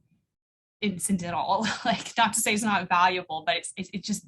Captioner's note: laughter